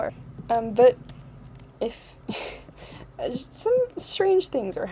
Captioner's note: laugh